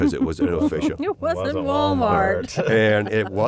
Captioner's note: laughter